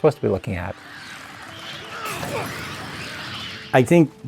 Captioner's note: zombie squeaking